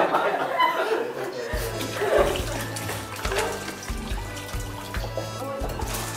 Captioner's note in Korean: 쪼르륵